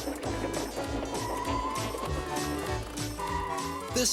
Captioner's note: tires skidding